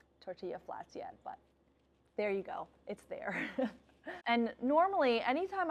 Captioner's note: laughs